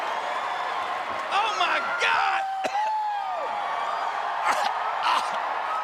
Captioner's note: crowd cheering; gags